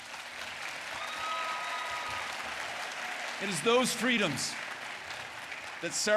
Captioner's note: applause